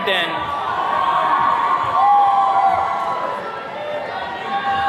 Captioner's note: attendees cheering